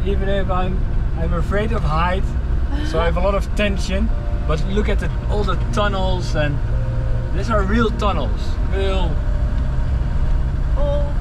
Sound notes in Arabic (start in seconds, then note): 2.9 تضحك